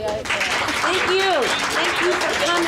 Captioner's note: audience applauds